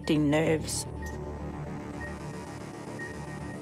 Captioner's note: monitors beep; tense music